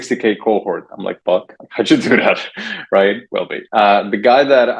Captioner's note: laughs